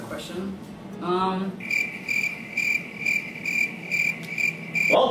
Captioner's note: cricket sound